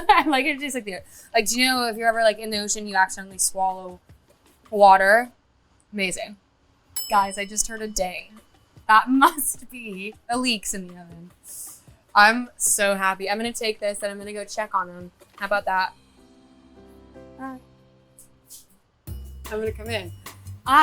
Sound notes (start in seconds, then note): 7.3 oven dinging; 15.6 tranquil music